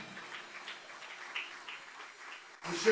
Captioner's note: applause